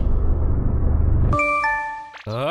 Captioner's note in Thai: เสียงแอปพลิเคชั่น Line